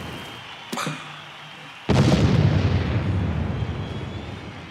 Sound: flame ignites; explosion

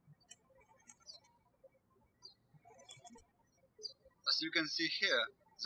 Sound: birds chirping

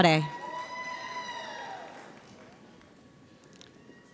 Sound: audience applauds

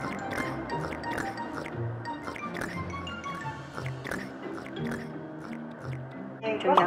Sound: slurping

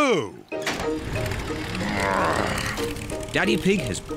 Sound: engine starts

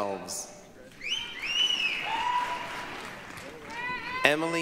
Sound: applause, cheering

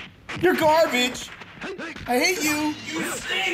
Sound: fighting sound effects

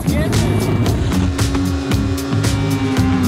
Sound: engine revs; upbeat music

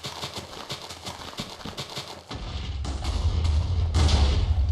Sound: explodes

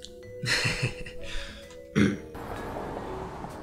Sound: nervous laugh and clearing throat

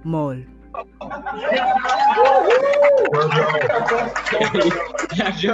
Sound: cheering

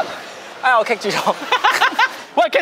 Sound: shameless Laughters

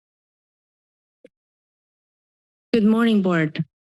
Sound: silence

